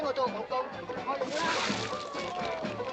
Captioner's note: yammering in Cantonese; splash